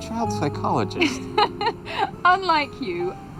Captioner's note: laughing